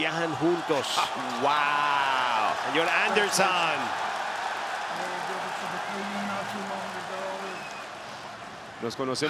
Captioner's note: applause